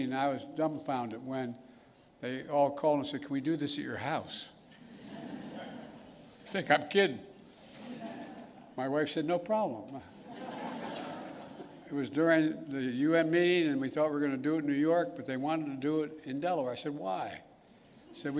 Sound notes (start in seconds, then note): 4.7 laughter; 10.2 laughter